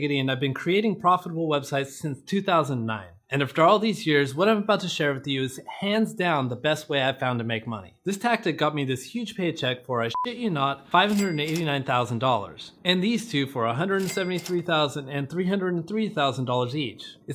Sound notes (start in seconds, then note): 10.1 beep